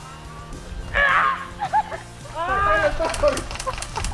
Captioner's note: screams